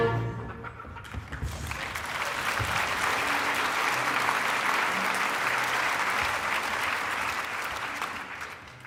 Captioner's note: applause